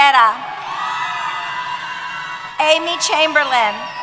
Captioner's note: cheers